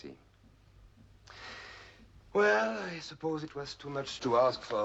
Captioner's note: inhaling